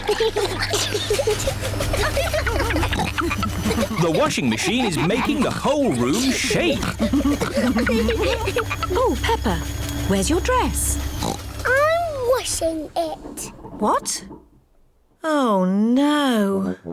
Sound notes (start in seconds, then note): 0.3 giggling; 2.5 rumbling; 10.9 oinks